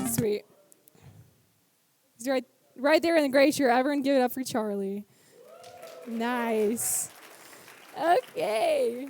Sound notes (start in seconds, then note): 5.4 audience cheers; 8.9 applause